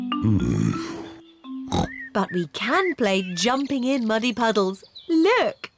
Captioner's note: oinks